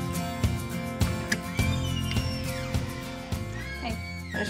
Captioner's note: door opens